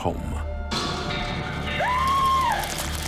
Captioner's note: woman screaming